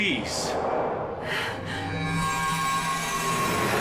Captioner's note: gasping